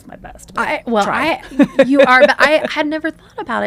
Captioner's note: laughs